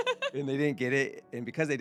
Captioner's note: laughing